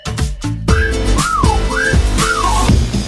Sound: wolf whistle x2

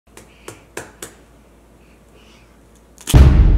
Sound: cracking egg

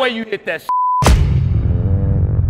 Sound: beep; upbeat music

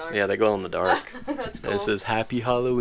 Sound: laughs

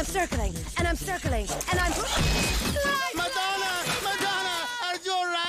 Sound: screams

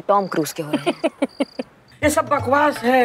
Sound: laughs

